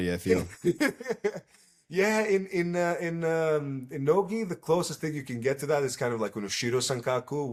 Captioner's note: laughs